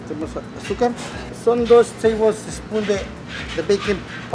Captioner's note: foreign language